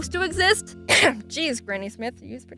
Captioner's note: cough